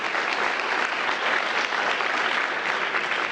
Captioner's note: applause